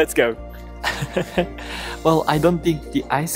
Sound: chuckles

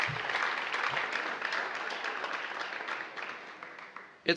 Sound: applause

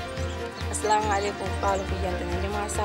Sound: Arabic

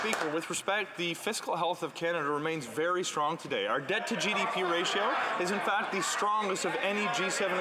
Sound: some Applause

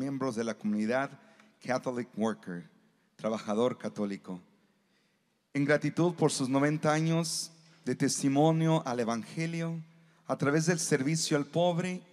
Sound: speaking non-english

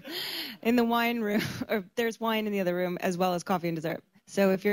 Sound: laughs

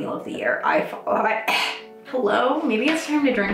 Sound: coughs

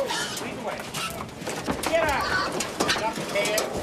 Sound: pigs grunting

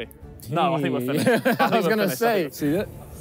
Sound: laughs

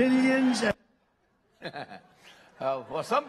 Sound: laughter

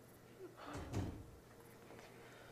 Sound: door closes

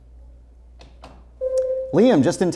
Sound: buzzer sounds

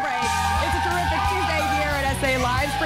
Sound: cheers and applause

